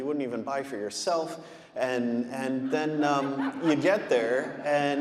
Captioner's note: audience laughing